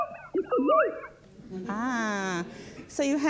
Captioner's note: voice speaks distorted, machine-like speech; audience murmurs